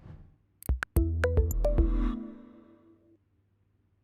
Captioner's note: logo sound